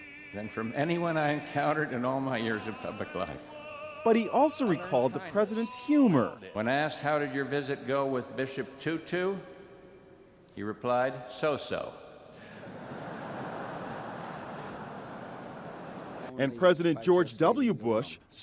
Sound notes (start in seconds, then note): 12.5 laughter